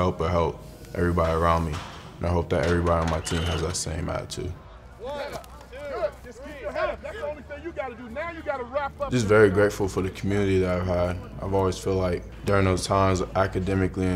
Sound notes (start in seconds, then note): 2.4 weights clattering; 3.1 whistle screeching